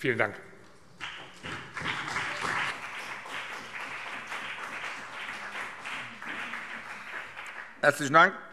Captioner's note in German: Beifall BÜNDNIS 90/DIE GRÜNEN und vereinzelt CDU